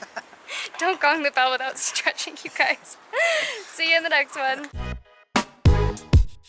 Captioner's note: laughter